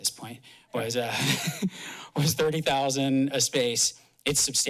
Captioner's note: laughs